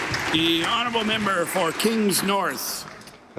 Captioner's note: applause